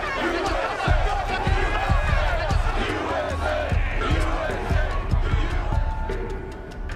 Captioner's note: crowd yelling; chanting